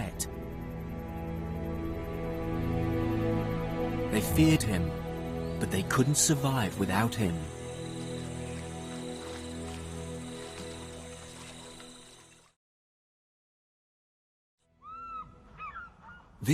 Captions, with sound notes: They feared him, but they couldn't survive without him. (eerie music continues) (insects buzzing) (birds squawking) This corner of northern Uganda around Murchison Falls is a haven for wildlife.